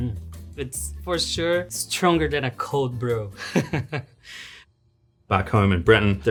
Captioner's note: chuckles